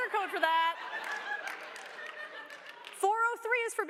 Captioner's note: laughter